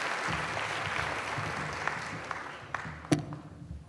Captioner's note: applause